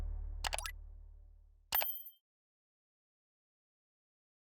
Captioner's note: click; bell jingling